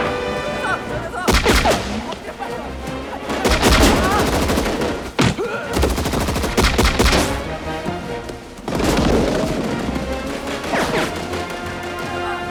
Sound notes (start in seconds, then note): 0.2 man Yelling In Korean; 3.2 grunts; 3.2 machine Gun Fire; 7.6 machine Gun Fire